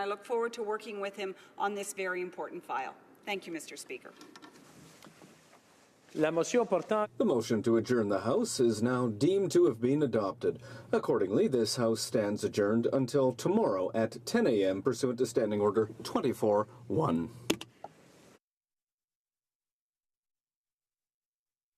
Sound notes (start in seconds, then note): 11.0 speaking french